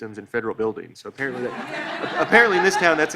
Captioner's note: audience laughs